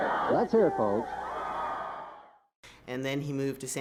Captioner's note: audience cheers